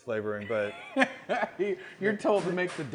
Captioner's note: laughing